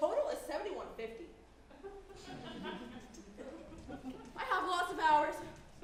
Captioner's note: audience chuckles